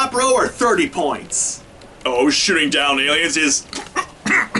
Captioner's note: cough